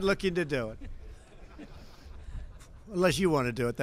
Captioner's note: laughter